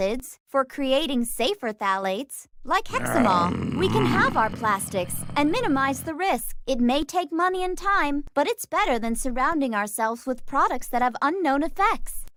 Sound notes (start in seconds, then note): 2.9 roars